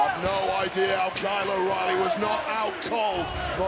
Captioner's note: audience cheering